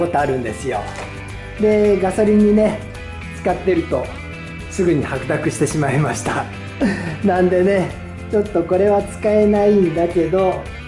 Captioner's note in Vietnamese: cười